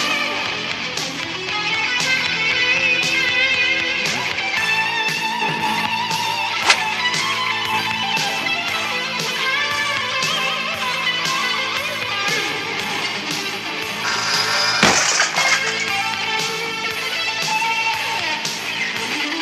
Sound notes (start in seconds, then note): 6.6 whish, chop; 14.0 buzz